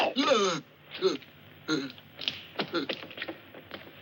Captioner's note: grunting